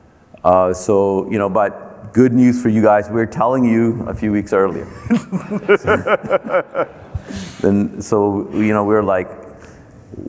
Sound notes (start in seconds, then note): 4.7 laughing